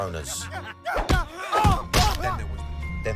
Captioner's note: man grunts